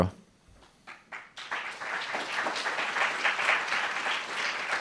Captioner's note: applauds